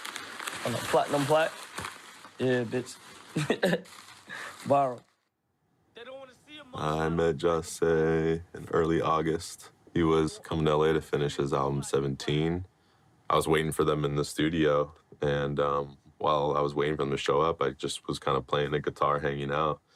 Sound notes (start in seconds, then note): 3.3 chuckles